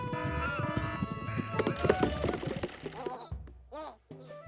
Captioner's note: timer rings